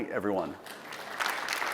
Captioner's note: applause